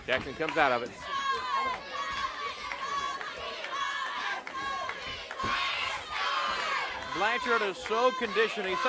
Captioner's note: crowd cheering